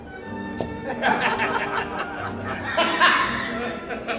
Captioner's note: men laugh heartily